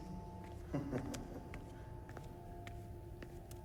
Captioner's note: killer laughing